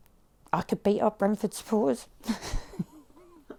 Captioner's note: laughs